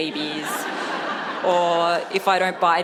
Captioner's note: audience laughs